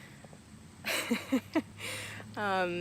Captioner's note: laughing